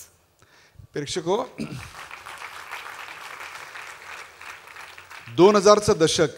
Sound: applause

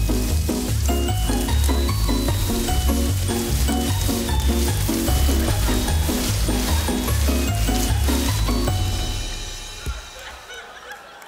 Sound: audience laughing

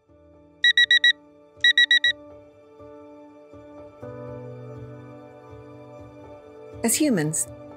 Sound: alarm beeping

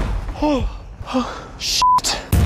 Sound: grunt

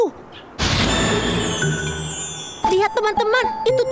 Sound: bells chiming

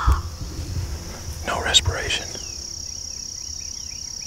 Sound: whispering

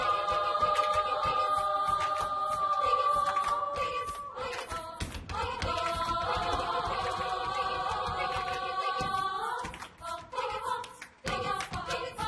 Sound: clapping and stomping

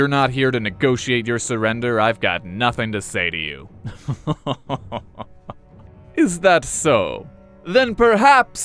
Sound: evil laugh

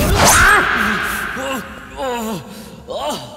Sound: shouting

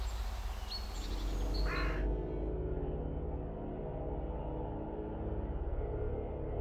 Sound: birds chirping; ominous music; loud crowing

